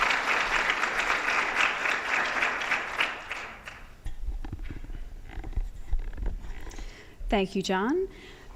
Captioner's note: applause